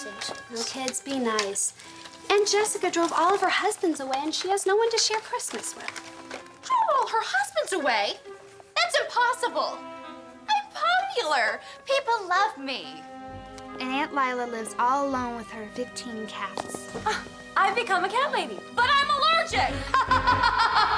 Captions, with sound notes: Now kids, be nice. Aunt Jessica drove all of her husbands away and she has no one to share Christmas with. Drove all her husbands away? That's impossible! I'm popular. People love me. And Aunt Lila lives all alone with her 15 cats. [scoffs] I've become a cat lady! -But I'm allergic! -[laughing]